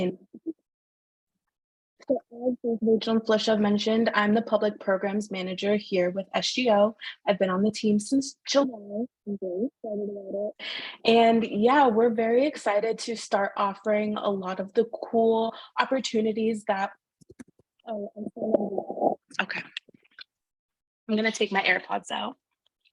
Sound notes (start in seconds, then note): 0.2 audio warbles; 17.9 audio warbles